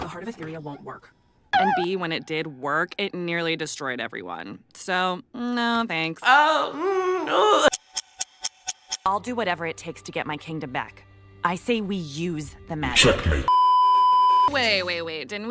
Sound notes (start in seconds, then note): 7.7 clock ticking; 13.5 beeeeeeeeeeeep